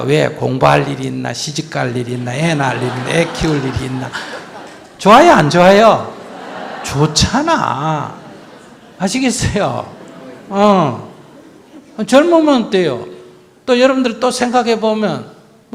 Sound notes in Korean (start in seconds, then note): 1.8 청중 웃음